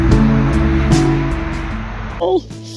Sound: traffic noise

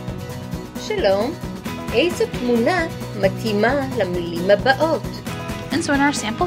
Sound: spoken hebrew

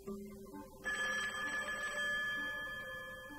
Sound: phone rings

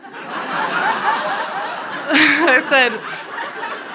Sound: crowd laughs

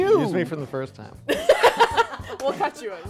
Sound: laughing

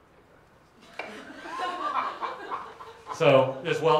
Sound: laughter

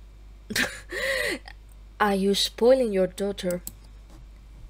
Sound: chuckles

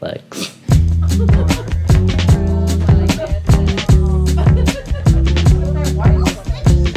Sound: rhythmic music; women laughing

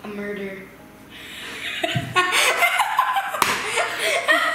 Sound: laughs

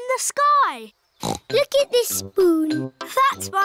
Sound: snorts

